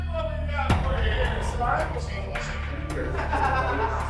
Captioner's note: intense music; inmates chattering